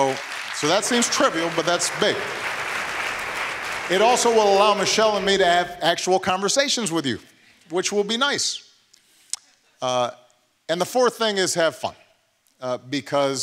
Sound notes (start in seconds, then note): 5.1 applause